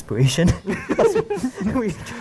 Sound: all giggles

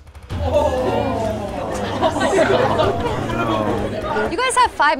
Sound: participants exclaims

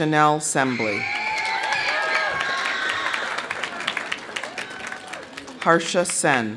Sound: audience cheering; audience applauding

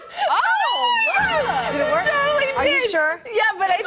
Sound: laughing

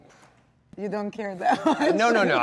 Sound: laughs

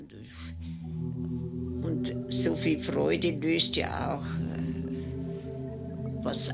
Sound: speaks foreign language; ominous music

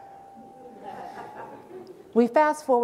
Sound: audience laughing

